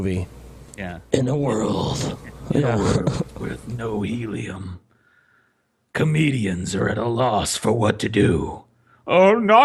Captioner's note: gravelly movie trailer voiceover; laughs a bit